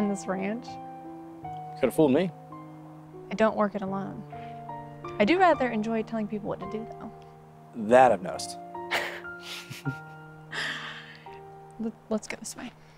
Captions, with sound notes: - I don't run this ranch. - You could've fooled me. - I don't work it alone. I do rather enjoy telling people what to do, though. - That I've noticed. (both laugh) - Let's go this way.